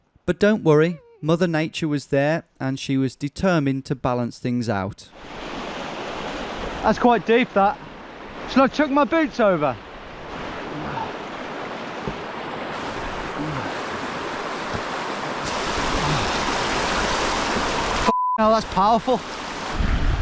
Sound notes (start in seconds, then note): 5.7 river roaring; 11.2 river roaring; 18.0 beeping